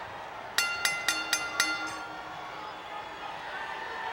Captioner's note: bell ringing